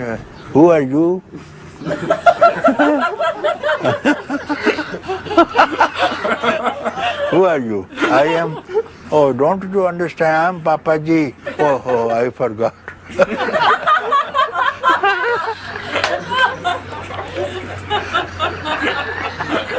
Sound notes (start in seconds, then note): 1.8 laughter; 13.0 laughter